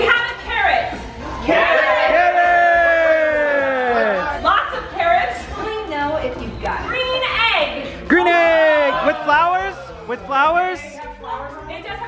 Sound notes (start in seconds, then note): 1.4 group cheers